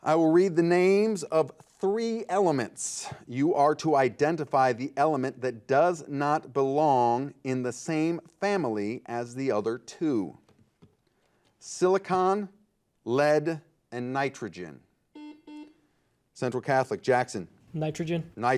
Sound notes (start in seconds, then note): 15.1 buzzer beeping